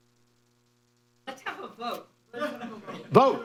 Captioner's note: laughter